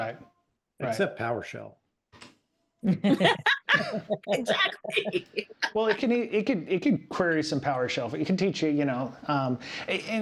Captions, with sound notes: Right, except PowerShell. (Both Laughing) Exactly. Well, it could query some PowerShell, but it can teach you, you know.